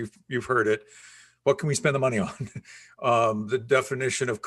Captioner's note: chuckles